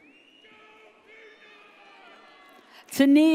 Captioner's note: audience cheers